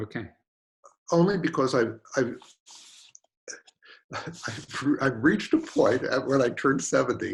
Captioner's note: chuckles